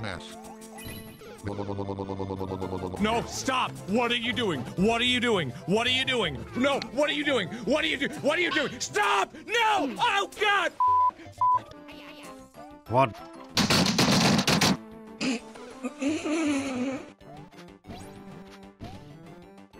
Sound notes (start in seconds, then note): 13.5 keyboard smashing